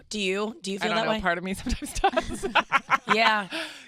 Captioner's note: laughs